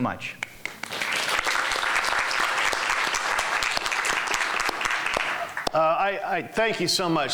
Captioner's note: applause